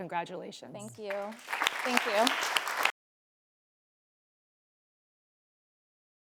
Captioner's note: audience clapping